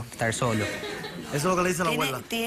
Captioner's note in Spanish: risas